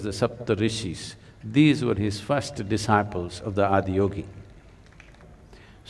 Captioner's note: applause